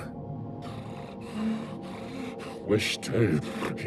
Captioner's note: panting